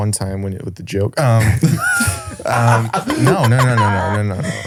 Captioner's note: laughs